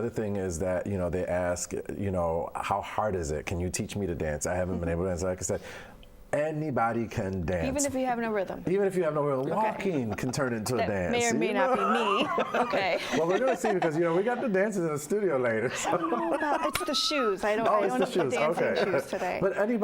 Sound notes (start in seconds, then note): 11.7 all laugh